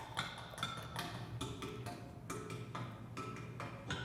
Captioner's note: rhythmic banging